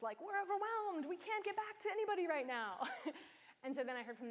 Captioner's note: chuckles